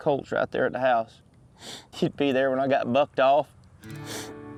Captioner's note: sniffles